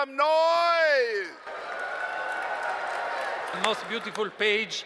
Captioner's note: cheers and applause